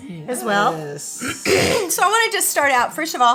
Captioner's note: clears throat